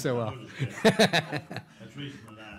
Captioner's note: laughing